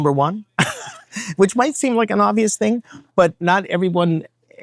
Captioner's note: chuckles